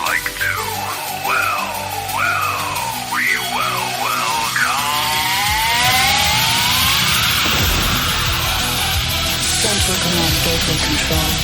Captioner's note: crash